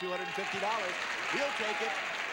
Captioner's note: audience applauding